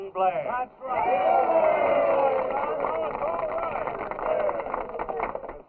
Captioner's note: all cheering